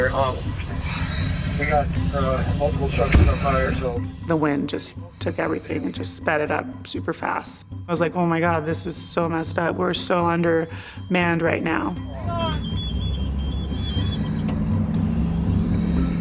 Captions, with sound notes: >> The wind just took everything and just sped it up super fast. And I was like, "Oh my god, this is so messed up. We're so undermanned right now." (beeping, indistinct yelling) (click, beeping stops)